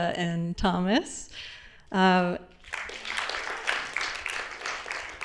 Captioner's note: applause